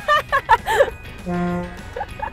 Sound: honk

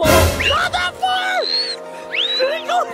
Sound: screams; laughing

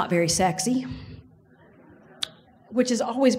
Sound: audience laughs

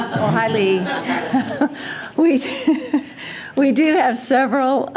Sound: all laughing

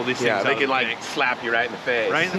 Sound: laughing

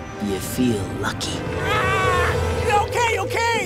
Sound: screaming

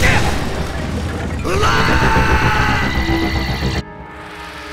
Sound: yells

